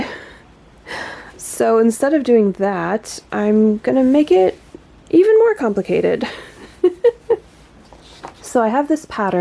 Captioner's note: laughs